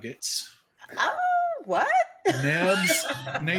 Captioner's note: people laughing